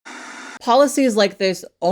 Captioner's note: static buzzes